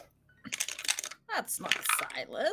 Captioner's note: dice clacking